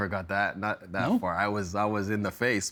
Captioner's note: laughing